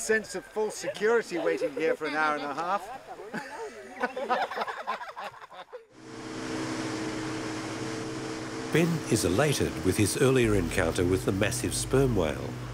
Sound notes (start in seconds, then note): 2.9 laughs